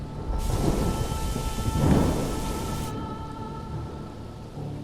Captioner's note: storm raging; soft music